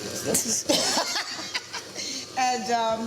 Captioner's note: both laughing